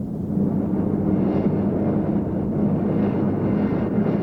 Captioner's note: engines rumbling